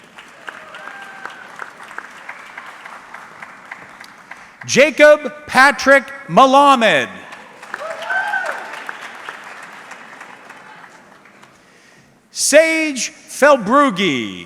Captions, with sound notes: (audience clapping) Jacob Patrick Malamed. (audience cheering) Sage Felbrugi.